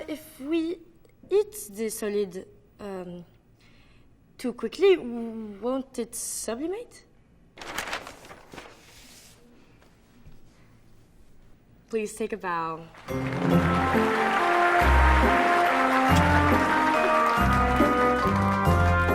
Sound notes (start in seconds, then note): 12.9 applause; 15.9 upbeat music